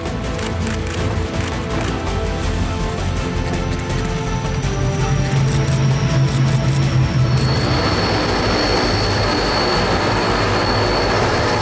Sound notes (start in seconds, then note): 0.1 camera shutters clicking; 6.2 plane engine roaring